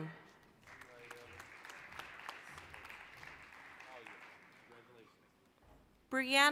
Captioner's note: applause